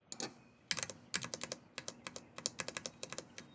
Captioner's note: rapid keystrokes